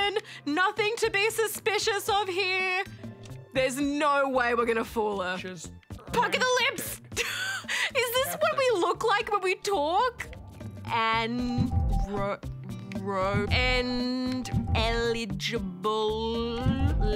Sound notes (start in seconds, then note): 7.3 laughs